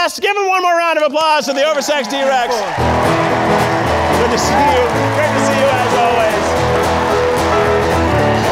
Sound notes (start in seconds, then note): 2.6 upbeat music; 3.1 audience applauding